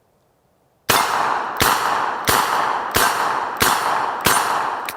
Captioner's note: gun fires